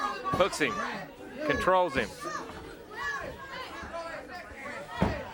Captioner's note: hands thudding